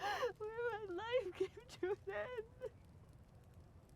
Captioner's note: crying